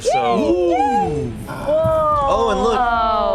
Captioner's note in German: jubeln